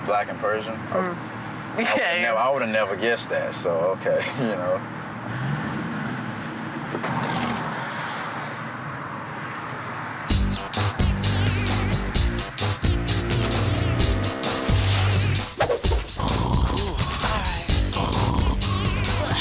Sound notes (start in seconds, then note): 10.5 energetic music; 16.0 snoring